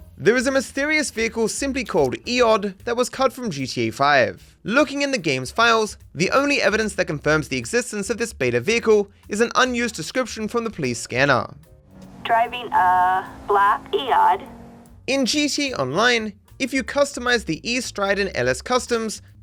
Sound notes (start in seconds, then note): 12.2 police Radio